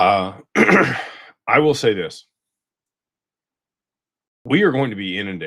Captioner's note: clears throat and cough